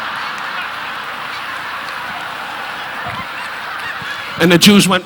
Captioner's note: audience laughing